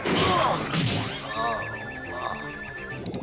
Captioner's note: moan